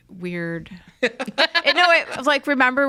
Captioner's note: laugh